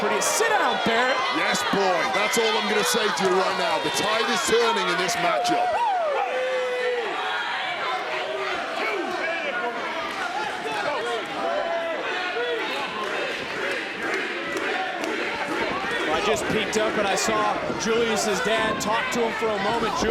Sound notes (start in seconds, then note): 6.0 audience chattering; 7.5 people shouting